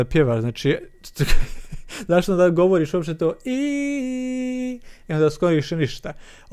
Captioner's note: laughter